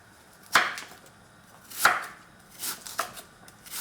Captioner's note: knife chopping